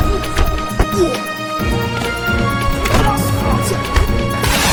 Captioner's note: thug groaning; punches thudding